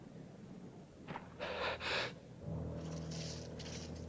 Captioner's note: sigh